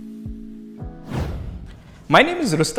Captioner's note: air whooshing